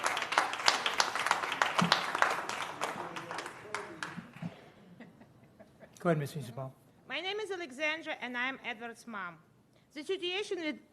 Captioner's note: applause